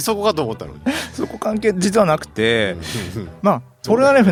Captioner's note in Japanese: 鼻息